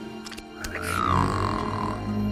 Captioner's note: growl